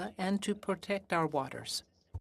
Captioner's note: speaking French